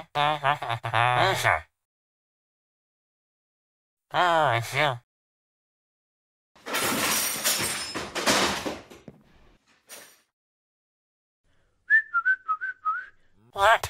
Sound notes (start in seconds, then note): 0.1 Laughs like squidward; 6.7 searching in drawer or Hiding something sound; 11.8 whistle